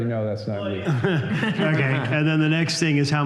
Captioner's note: laughter